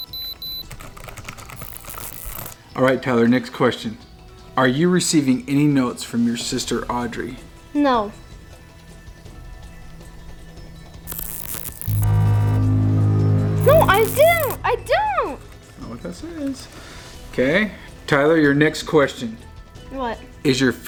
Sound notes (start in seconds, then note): 1.5 detector beeps; 11.0 detector buzzes; 13.2 ominous tone